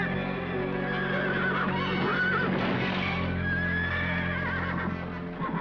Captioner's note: horses whinnying